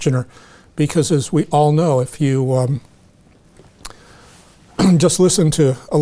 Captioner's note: clears throat